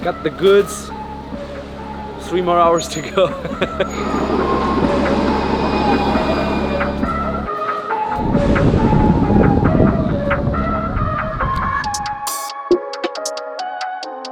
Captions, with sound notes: got the goods. Three more hours to go. (laughs) (train engine roars) (upbeat music)